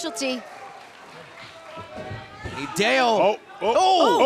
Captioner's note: crowd cheering